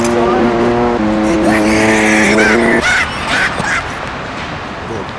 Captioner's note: albert einstein laugh